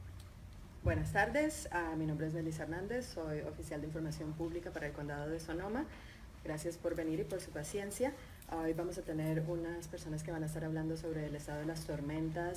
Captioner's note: speaking in Spanish